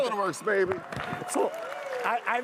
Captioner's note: all applaud loudly